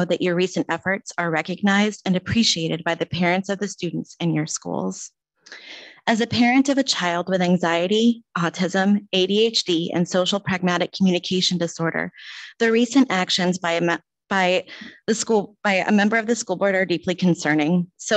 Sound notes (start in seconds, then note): none